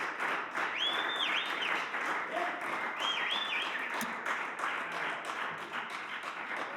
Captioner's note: applause